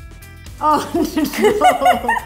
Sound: laughs

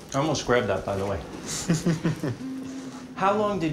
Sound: laughs

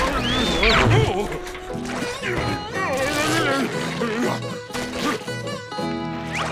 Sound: grunting

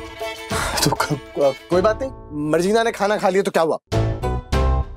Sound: chuckling

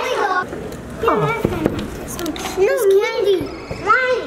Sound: knocks

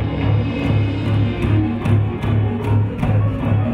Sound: feet stomping

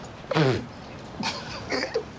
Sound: spits; both laughing

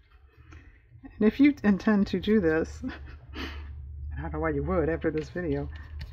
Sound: laughs

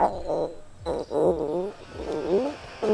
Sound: rumbling

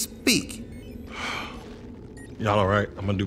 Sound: sighs

